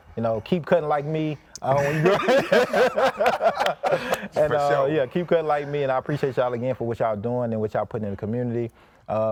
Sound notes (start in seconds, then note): 1.6 group laughing